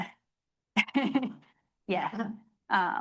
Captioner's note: laughing